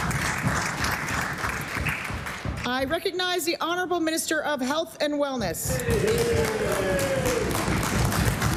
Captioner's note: applause